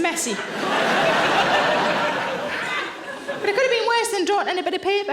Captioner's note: audience laughs